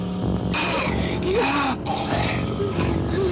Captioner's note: growling